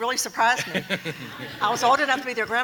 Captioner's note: people laughing